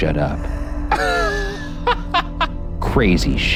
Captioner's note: laughs